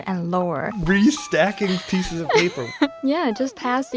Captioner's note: speaking Mandarin; laughs